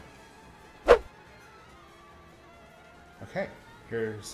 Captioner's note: whooshing